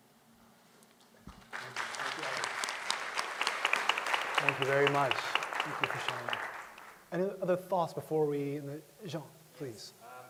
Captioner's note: applause